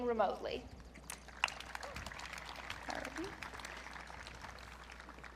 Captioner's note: audience clapping